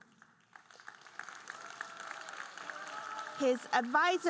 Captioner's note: audience cheering and applauding